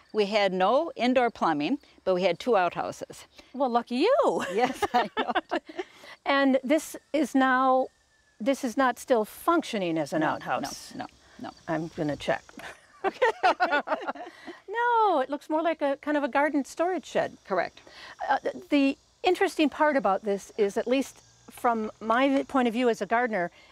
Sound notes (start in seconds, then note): 4.3 laughs; 12.6 both laughing